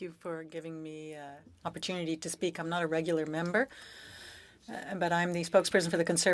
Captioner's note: speaking French